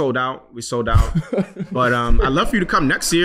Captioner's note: laughing